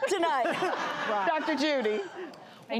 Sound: laughing

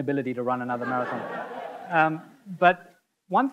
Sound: audience laughing

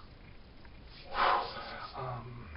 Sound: big exhale

